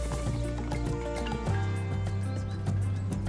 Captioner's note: birds chirping; bell rings